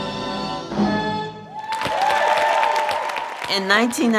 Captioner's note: cheers and applause